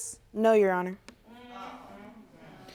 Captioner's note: audience murmuring